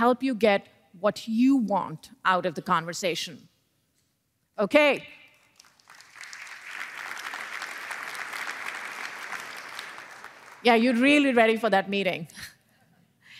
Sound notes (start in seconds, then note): 5.3 applause